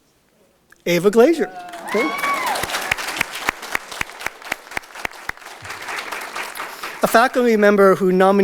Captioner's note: audience Applause